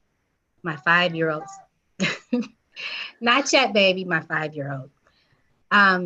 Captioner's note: chuckles